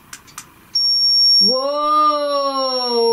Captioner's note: loud beeping